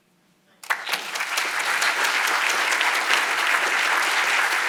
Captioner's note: audience applauding